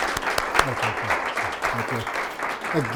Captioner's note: applause